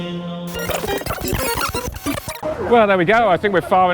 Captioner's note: rewind Sound